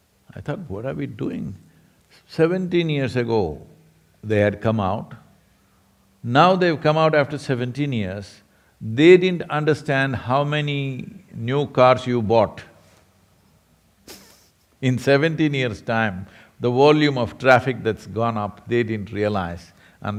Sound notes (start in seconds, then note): 14.1 laughs